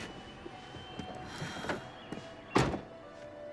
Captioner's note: sighs deeply; door closes